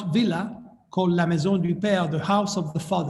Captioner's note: speaking in foreign language